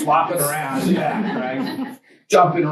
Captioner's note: students laugh